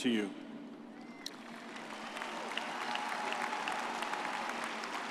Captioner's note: audience cheers